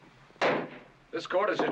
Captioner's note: bang